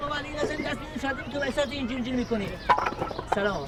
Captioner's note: thud